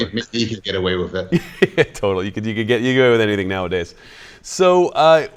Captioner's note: laughs